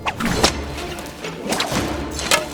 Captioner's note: rope whips